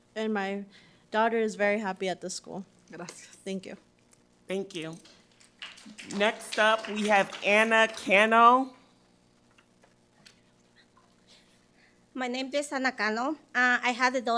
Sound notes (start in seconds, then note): 3.4 speaking Spanish; 5.3 audience applauds